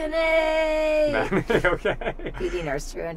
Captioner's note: laughing